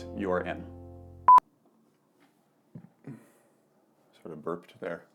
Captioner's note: beep